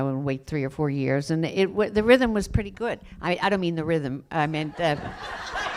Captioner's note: laughter